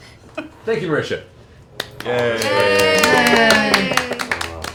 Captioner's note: cheering